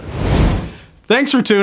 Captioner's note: air whooshing